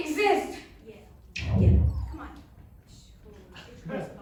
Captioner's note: Wii error sounds